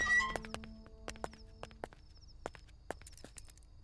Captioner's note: Gate opening; Footsteps